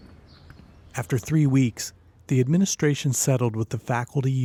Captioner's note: voiceover